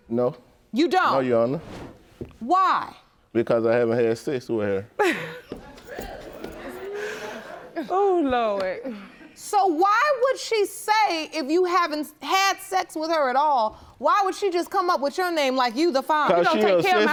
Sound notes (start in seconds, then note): 5.0 laughing